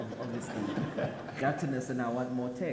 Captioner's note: audience laughs